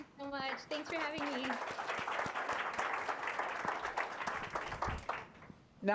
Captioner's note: applause